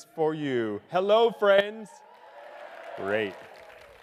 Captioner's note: audience cheering